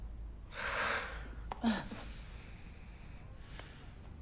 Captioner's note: both sighing